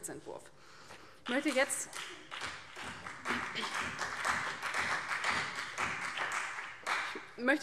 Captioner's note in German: Beifall CDU und BÜNDNIS 90/DIE GRÜNEN